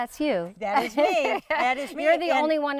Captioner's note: laughing